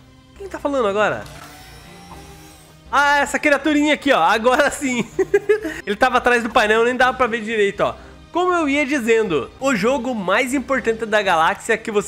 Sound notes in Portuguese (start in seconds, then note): 5.0 risos